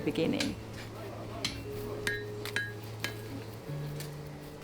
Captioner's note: hammer tapping